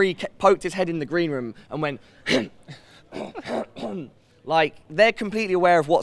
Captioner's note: choking noise